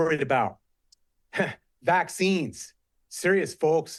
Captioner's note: chuckle